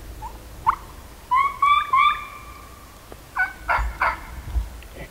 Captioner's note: calling